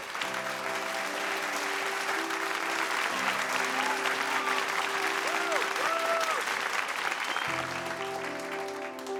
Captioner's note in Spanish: Aplausos